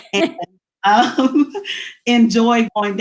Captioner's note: laughs